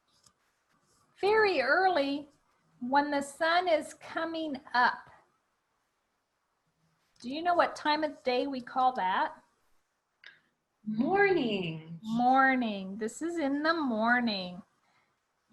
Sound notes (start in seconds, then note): none